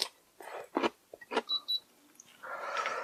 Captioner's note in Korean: 삐삑